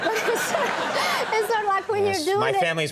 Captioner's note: audience laughing